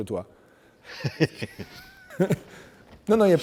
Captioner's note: laughs